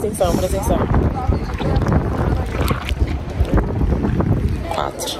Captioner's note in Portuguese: vento